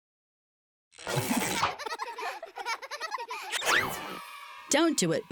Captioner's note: children laughing